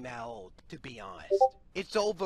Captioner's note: Discord ping